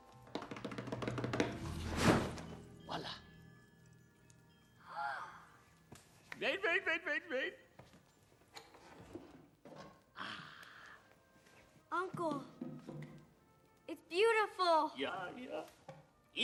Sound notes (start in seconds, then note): 0.6 drum roll; 4.8 both gasp